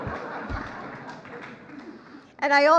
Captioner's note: laughter